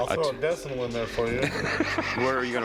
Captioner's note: laughter